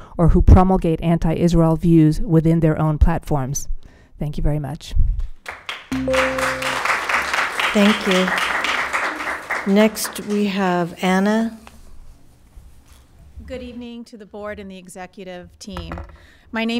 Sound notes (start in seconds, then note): 5.4 attendees applauding